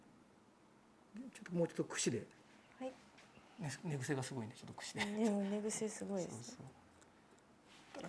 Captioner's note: laughs